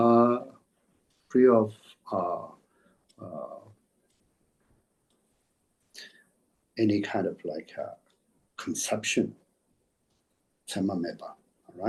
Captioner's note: tibetan